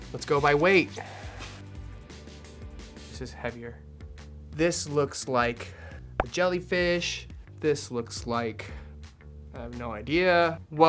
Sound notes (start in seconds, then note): none